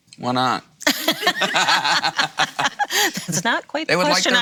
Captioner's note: laughs